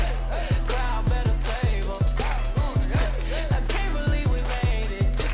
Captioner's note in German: Publikum klatscht mit